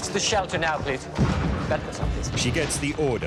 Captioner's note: explosions